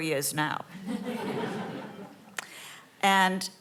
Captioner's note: audience laughing